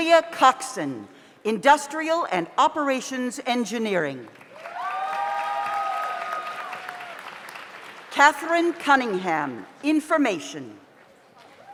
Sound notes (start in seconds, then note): 4.4 audience applauds; 4.6 audience cheers